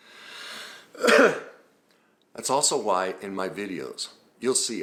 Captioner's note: coughs